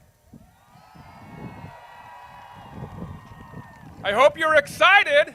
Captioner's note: crowd cheers